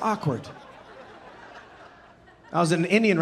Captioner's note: audience laughing